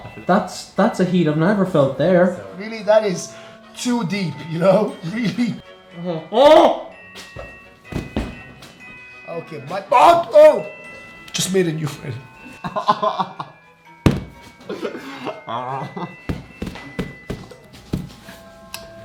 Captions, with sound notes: That's a heat I've never felt there! Really? That is too deep, you know? Really! OHHH!!! Ok, my ba..... OH! I just made a new friend. AHHHH!!! *laughing in pain*